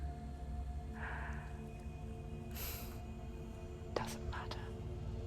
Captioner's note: inhales then sighs